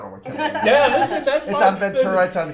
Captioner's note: laughs